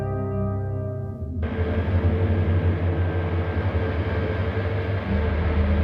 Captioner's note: airplane droning